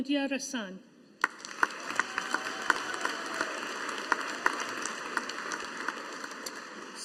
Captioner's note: audience applauding